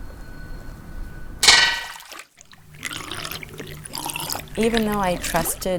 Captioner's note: blade dropping